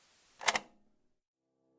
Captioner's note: click